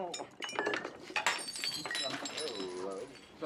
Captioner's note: glass breaks